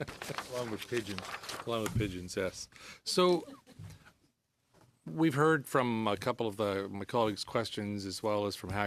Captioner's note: laughter